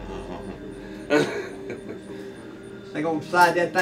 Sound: laughs

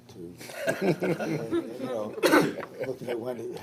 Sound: all chuckle

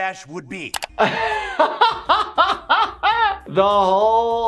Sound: laughs

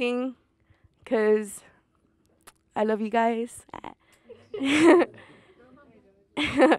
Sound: laughs

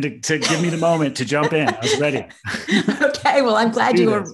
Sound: laughs

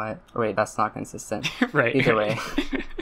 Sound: laughs

